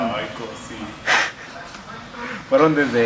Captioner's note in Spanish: risas